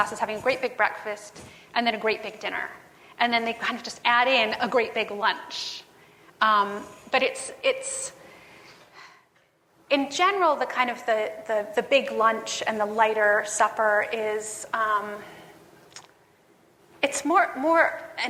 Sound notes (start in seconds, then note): none